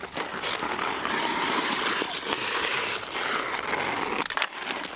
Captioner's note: ice skates grinding